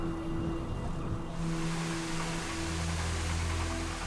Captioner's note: whirr of machinery